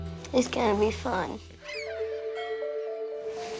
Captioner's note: gulls calling